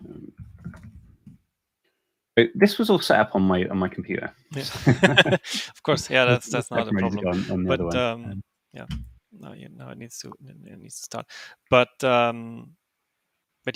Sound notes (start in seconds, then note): 4.6 both laughing; 8.0 faintly speaking